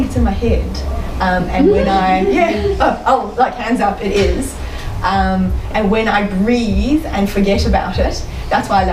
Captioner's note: audience giggle